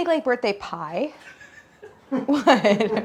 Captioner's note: crew laughing